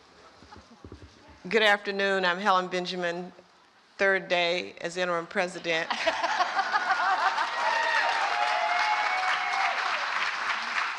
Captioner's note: applause